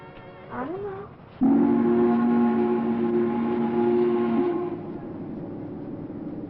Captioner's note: boat toots